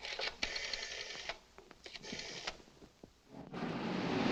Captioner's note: rotary phone dials; car rumbling